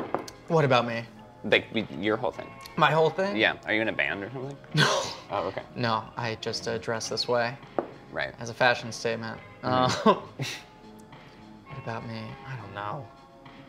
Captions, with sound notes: - What about me? - Your whole thing. - My whole thing? - Yeah. Are you in a band or something? - (laughs) No, no. I just dress this way. - Right. - As a fashion statement. Um, what about me? I don't know.